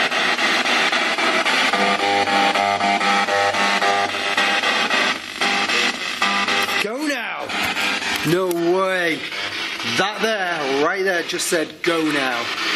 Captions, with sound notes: (beeping) - [Voice On Radio] Go now. - Go now. No way, that there, right there, just said go now.